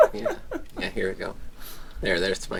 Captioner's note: breathes deeply